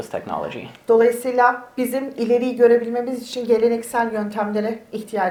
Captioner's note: speaks in Turkish